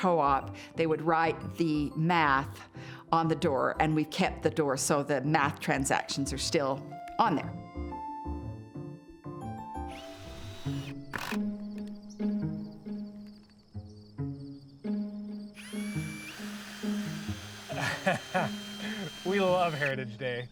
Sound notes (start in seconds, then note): 7.6 lighthearted music; 9.7 drill whirring; 15.5 drill whirring; 17.6 laughs